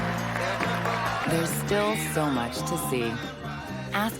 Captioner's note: applause